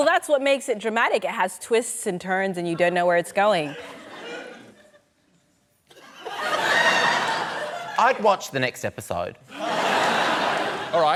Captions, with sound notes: Well, that's what makes it dramatic. It has twists and turns, and you don't know where it's going. (LAUGHTER) I'd watch the next episode. (LAUGHTER)